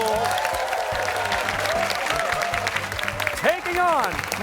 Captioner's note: cheers and applause